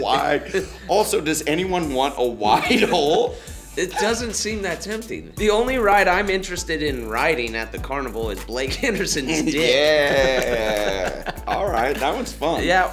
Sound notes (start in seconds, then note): 8.8 laughs